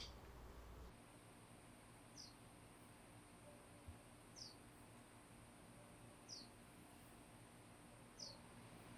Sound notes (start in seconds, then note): 1.2 birds chirping